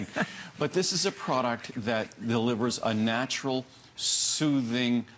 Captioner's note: laughter